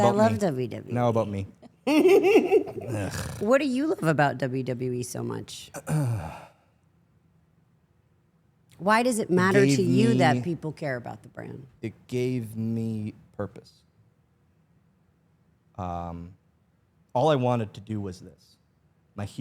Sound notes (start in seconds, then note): 1.6 Stephanie chuckles; 2.8 snorts; 5.8 clears throat